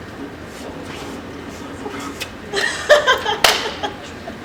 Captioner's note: everyone laughs